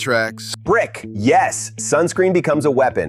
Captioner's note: excited